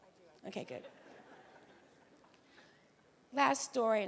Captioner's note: audience laughing